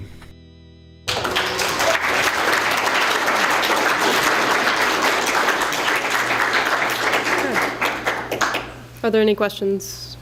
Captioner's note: applause